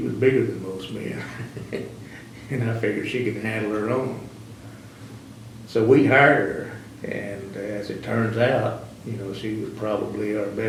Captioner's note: laughs